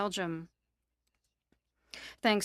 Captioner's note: speaking French